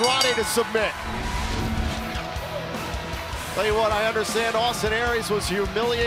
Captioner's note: bell ringing